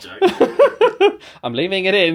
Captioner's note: laughs